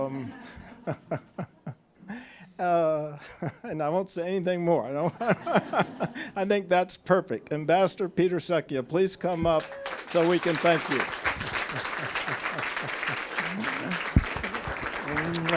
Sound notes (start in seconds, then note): 0.3 all laughing; 5.0 laughing; 5.0 all laughing; 11.5 applause